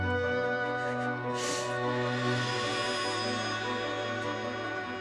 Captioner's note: Carol crying